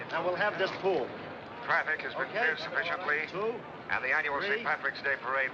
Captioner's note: man On Radio